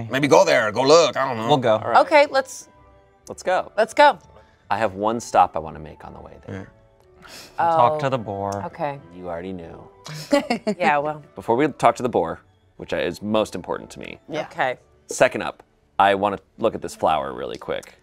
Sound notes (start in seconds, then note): 10.0 laughs